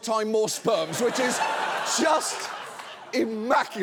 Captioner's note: audience laughs